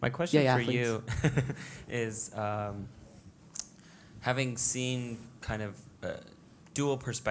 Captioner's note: laugh